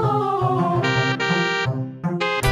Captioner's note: honk honk